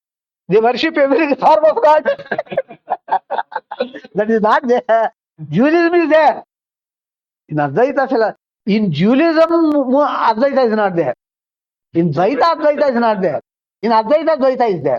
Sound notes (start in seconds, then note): 1.6 laughs